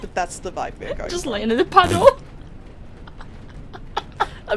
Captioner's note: laughing